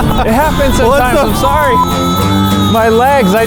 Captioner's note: laughs; beep